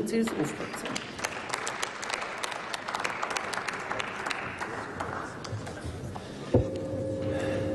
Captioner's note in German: Applaus